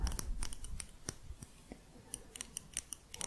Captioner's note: light metal tapping